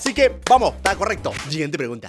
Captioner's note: applause